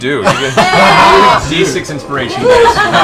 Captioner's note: laughter